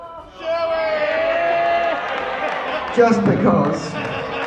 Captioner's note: crowd shouting "Shoey"